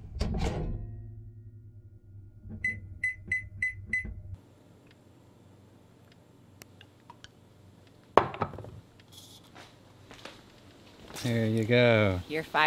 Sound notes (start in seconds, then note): 0.2 door banging shut; 2.6 microwave beeping; 8.2 bottle clanging